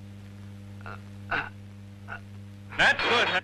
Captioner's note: grunting